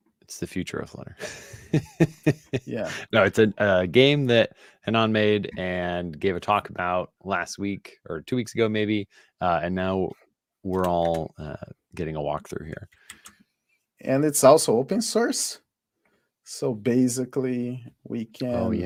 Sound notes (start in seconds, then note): 1.2 laughs